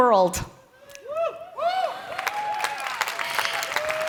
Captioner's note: cheering